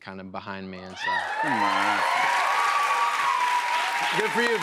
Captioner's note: cheers and applause